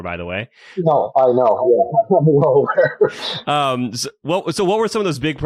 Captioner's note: laughs